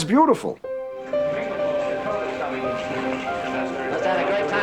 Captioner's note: reporters Chattering